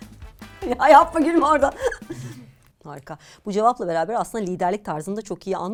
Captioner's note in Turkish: kahkaha